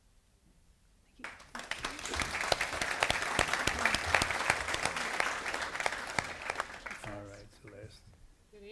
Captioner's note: applause